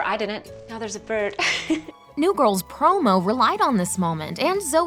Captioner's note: giggles